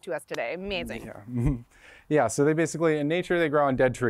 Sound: laughter

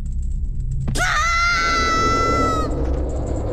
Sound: samus/link yelling

